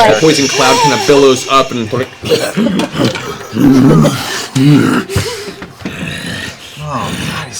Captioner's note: cough, sinister growl